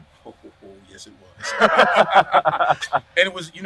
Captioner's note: laughing